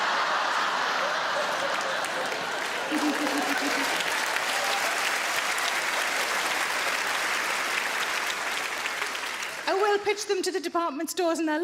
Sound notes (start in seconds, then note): 0.0 audience laughs; 2.6 audience applauds